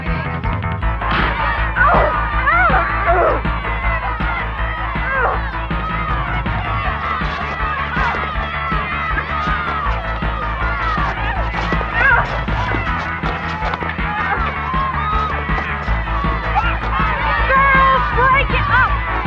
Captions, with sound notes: (uptempo instrumental music) (shouting) (grunting) - Girls, break it up!